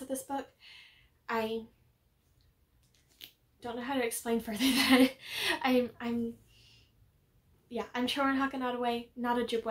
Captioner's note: awkward laugh